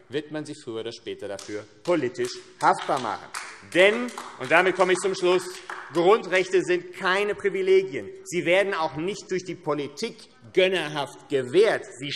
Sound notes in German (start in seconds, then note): 3.3 Beifall AfD